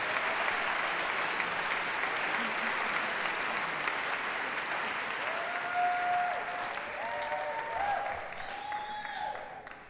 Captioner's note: applause and cheering